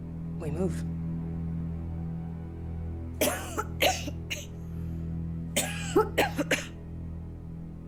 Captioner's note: suspenseful music continues; Holly coughing